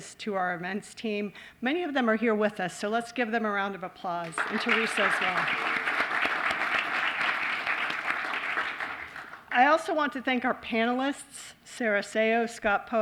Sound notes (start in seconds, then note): 4.2 applause